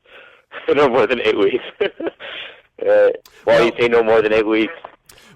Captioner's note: laughs